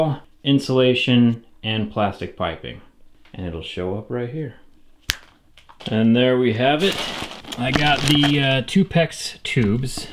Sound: snap

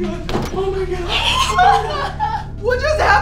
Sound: crying

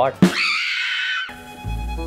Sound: screaming; upbeat music

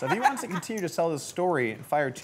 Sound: laughs

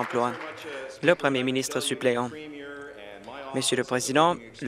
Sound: applause

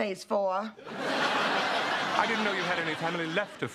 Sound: laughter

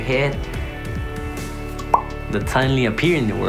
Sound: lip popping

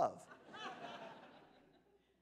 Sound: laughter

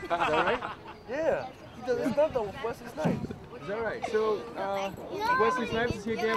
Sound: laughs

